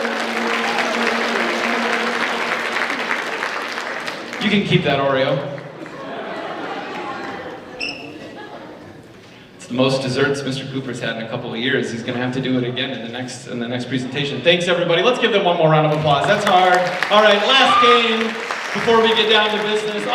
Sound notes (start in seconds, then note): 0.0 audience applauds; 5.7 audience laughs